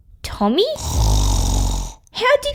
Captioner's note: snoring!